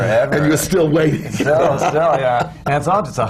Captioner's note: laughs